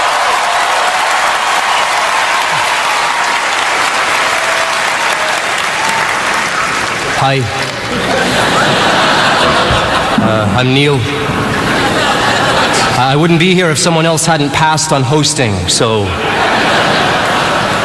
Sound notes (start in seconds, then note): 7.8 laughter